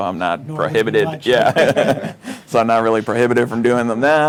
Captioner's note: laughs